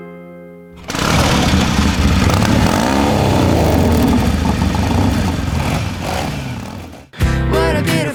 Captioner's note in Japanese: 車の音